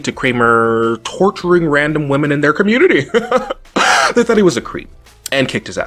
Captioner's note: laughs